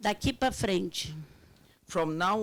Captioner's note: speaking Portuguese